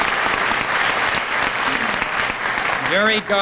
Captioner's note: audience applauding